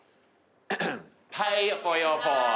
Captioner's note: clears throat